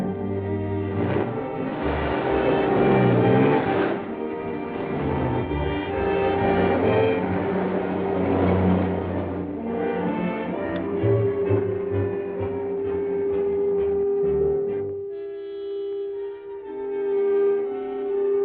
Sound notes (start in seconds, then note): 9.8 machine clicks; 11.2 tool buzzing